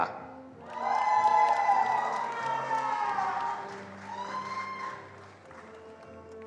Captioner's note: attendees cheering and applauding